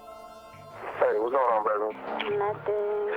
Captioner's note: on phone